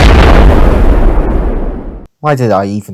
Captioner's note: multiple-Blasts